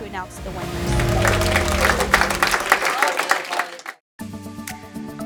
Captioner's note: audience applauding; bright music